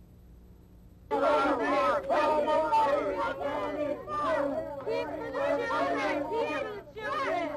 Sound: people protesting

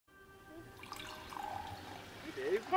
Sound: sound of wine pouring into glass

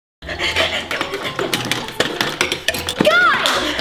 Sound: banging

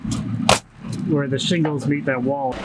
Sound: nail gun bangs

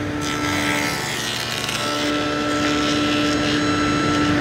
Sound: machine buzzing

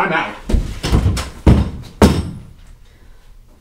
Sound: door flings opens

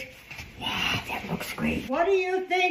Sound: whispered

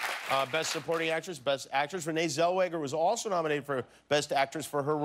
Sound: cheers and applause

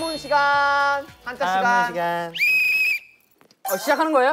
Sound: blowing the whistle

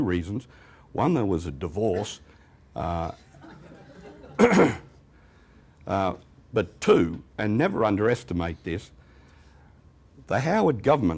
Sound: laughter

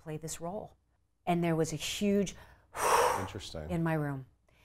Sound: sigh

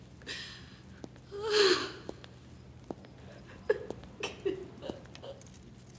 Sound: crying

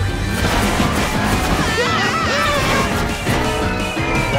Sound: screaming

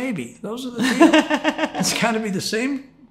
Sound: laughs

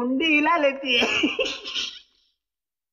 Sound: laughs

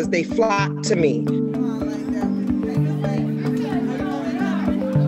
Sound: people clamoring

